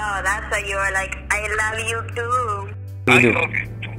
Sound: heavily accented

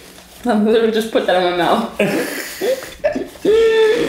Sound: laughing

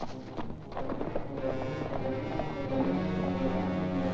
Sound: hooves trotting; suspenseful music

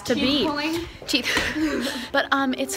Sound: laughs

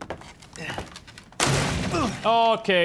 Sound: crash

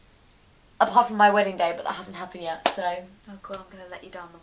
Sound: claps

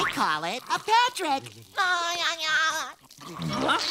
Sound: laughing

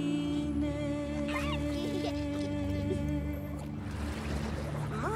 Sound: baby laughing

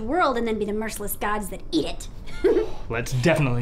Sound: laughing

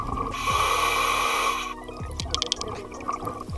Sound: breathing

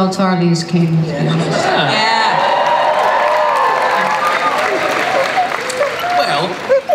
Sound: cheering, applause

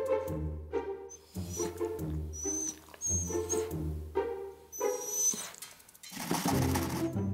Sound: sad dog noises

